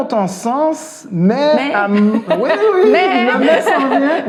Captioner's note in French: rires